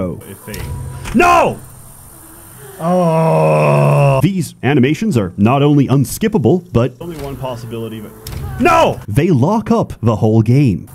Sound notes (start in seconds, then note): 2.1 groans